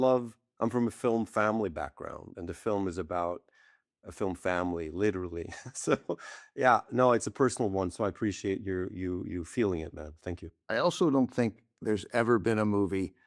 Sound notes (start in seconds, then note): 5.4 chuckles